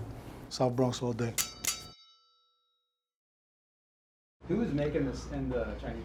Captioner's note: metal clanging